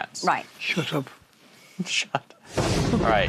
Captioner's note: laughs